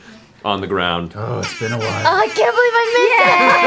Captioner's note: air horn; laughter